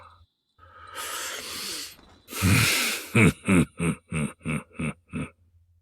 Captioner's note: laughter